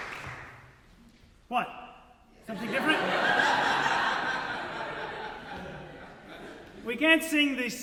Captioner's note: audience Laughter